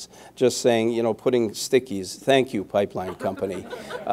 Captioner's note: laughter